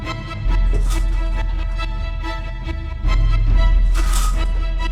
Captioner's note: blinds swish